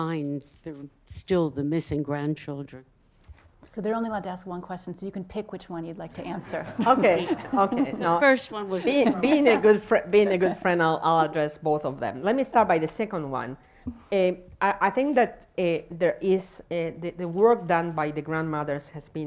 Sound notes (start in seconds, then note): 6.6 laughs, laughter